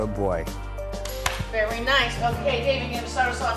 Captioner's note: clapping